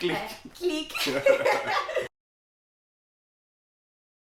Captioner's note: both laughing